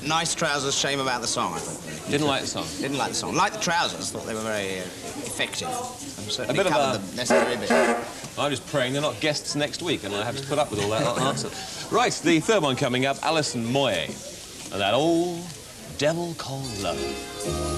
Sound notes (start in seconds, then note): 7.2 honks horn of disapproval